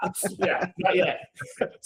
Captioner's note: laughing